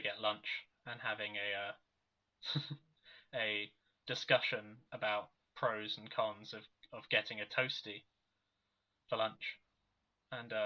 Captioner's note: laughs